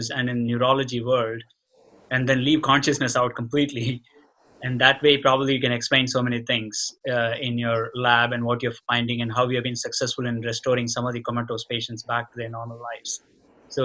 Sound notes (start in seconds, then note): none